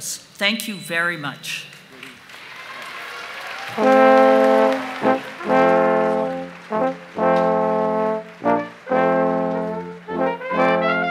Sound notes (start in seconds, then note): 3.8 applause